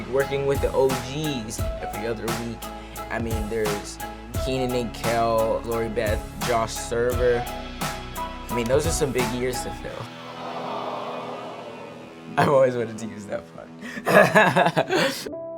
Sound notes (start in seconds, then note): 10.2 crowd; 13.8 laughs; 15.4 calming music